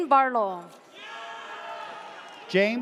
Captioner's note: audience cheers